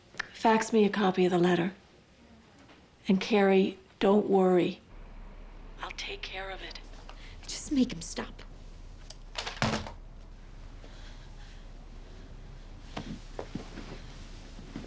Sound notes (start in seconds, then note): 10.3 heavy breathing